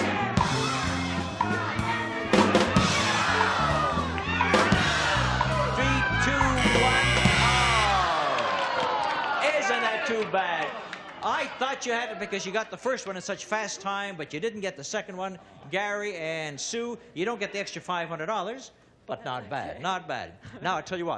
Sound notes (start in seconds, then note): 0.3 cheering; 6.5 buzzing